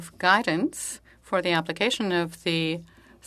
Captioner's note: speaking French